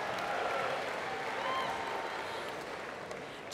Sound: applause

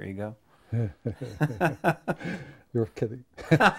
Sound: men laughing

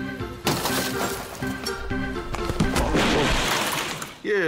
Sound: glass shattering

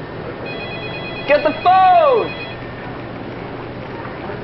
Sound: phone rings; phone ringing incessantly

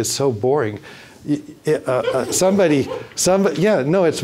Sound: audience laughing

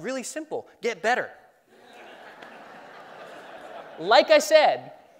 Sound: laughing

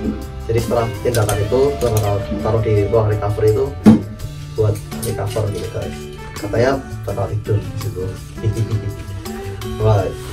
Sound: chuckle

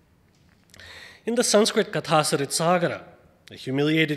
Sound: speaks foreign language

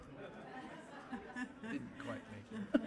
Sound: laughter

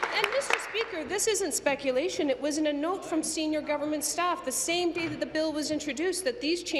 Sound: applause

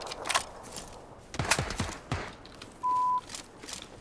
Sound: gun fires

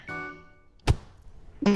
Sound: splat

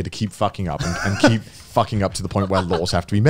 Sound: laughing

